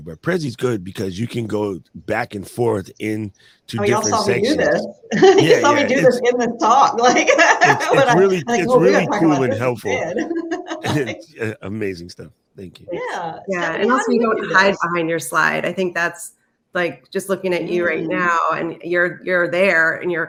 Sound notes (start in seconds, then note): 6.9 laughs